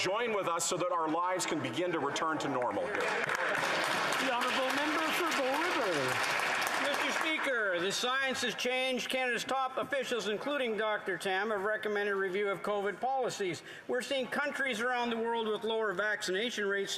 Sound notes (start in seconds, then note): 7.3 applause